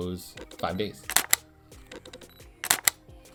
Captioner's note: camera clicks